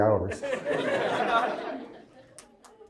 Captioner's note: crowd laughs